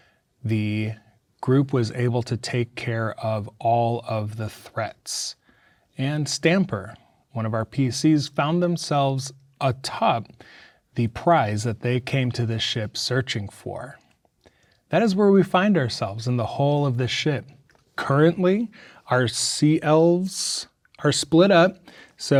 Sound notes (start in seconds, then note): none